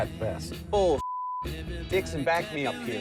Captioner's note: beeps